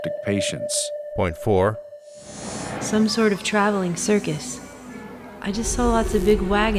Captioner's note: static